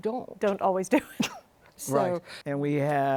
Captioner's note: chuckles